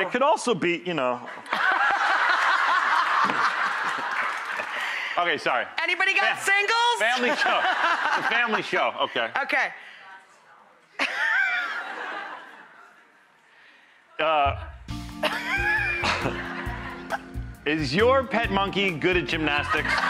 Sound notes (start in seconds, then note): 1.5 Rachael laughing